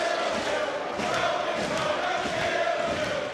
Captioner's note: audience cheering